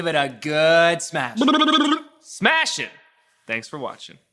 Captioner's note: flaps lips